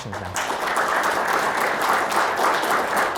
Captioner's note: audience applauding